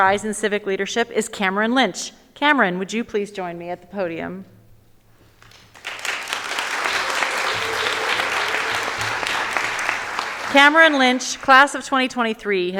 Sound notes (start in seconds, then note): 5.4 audience applauding